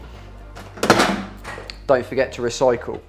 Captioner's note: can clatters